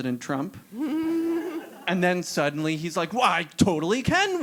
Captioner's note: laugh